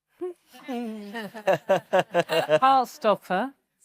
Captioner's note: panellists laughing